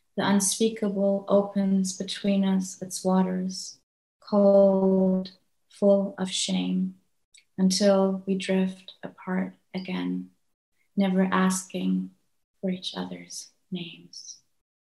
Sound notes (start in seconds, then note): none